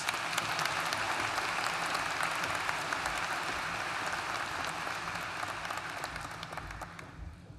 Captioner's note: applause